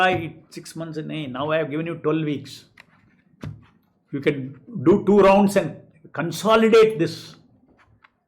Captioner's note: hindi